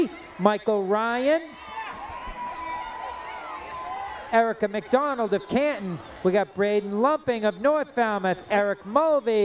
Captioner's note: cheering